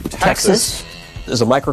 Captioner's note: mooing